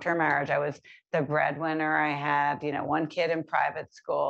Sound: none

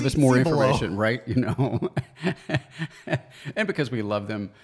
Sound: laughs

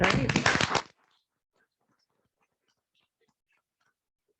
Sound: applause

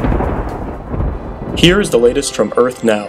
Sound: thunder

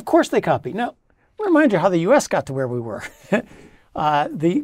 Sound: laugh

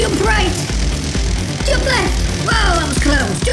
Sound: crackling electricity

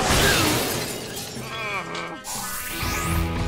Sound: groaning

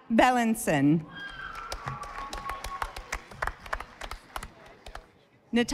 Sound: audience applauding

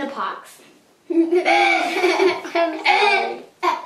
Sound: laughing

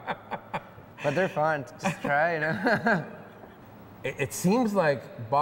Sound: laughs

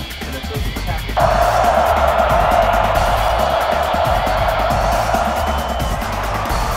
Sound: crowd taunting; crowd cheering

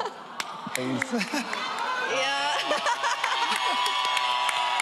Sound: audience cheering

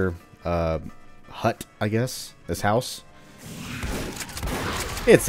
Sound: Bugdog army snarls, Shotgun blasting

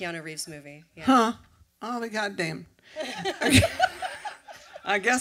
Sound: laughter

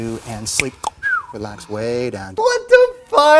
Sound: cluck-snap-whistle!

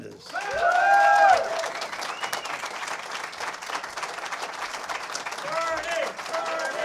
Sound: cheers and applause

